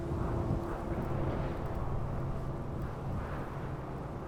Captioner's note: wind whooshing